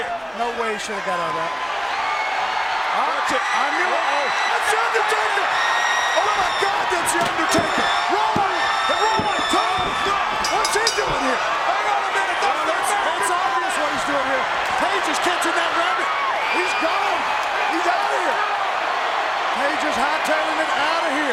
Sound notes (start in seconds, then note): 0.3 crowd cheering; 9.3 bell dinging; 12.5 overlapping chatter